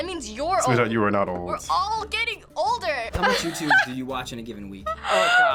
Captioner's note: laughs